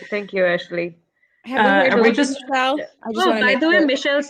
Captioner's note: chatter